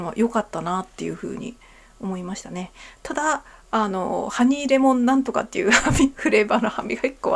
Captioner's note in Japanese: 笑い